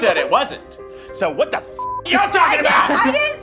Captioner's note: beep